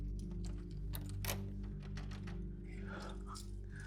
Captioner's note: lock rattles